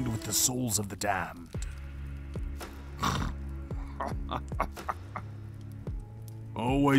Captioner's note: he snorts, apparently amused